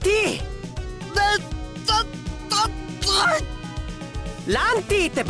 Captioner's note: still choking on rage